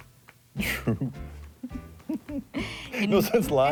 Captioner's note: laughing